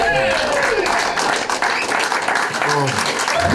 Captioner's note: crowd clapping